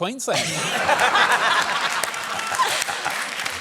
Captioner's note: laughter, applause